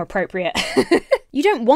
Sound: laughs

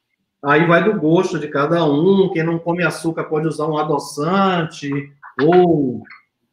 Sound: speaks portuguese

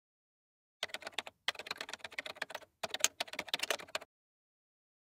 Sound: keyboard clacking

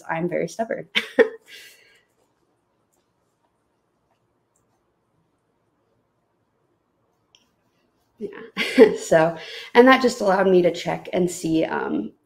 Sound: chuckles

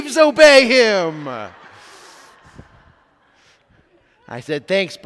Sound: congregation laughs

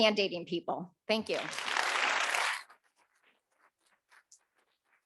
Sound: audience clapping

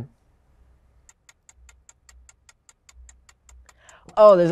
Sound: clock ticking

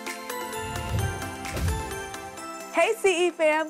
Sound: whoosh

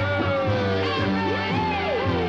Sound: water splashes

